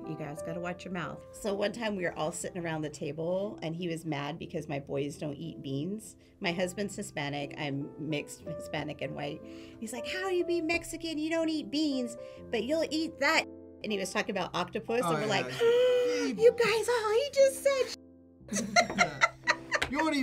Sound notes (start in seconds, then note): 15.3 gasps; 18.5 both laugh